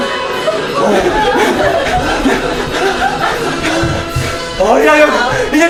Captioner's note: gasping